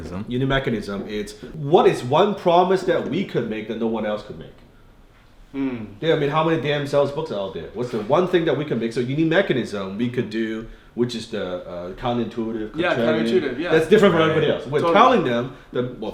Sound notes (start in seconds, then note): 5.5 murmuring thoughtfully